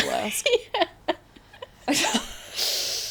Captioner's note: laughter